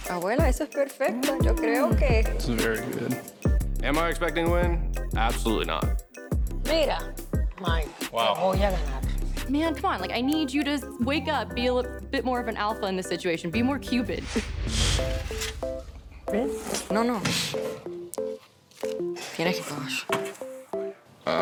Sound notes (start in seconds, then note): 0.2 speaks Spanish; 6.7 speaks Spanish; 16.4 speaks Spanish